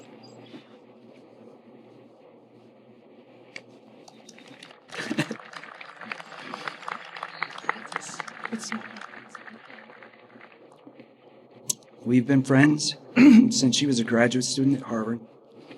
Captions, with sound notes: (audience applauding) We've been friends since she was a graduate student at Harvard,